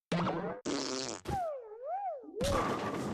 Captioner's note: choking